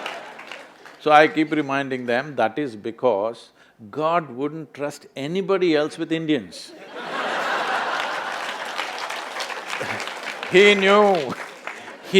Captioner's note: laughter/Applause